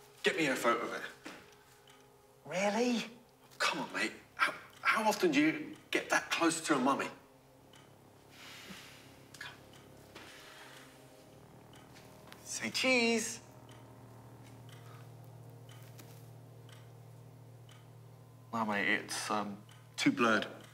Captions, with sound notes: Get me a photo of it. - Really? - Come on, mate. How often do you get that close to a mummy? Come. (ominous music) (clock ticking) - Say, cheese! - Well mate, it's too blurred.